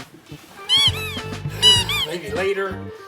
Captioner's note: doll squeaking